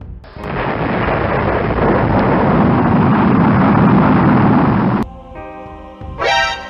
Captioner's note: rocket blasting